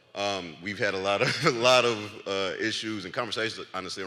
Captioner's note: laughs